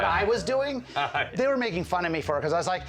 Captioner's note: Mike laughing